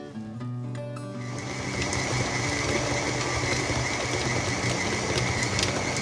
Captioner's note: stand mixer whirring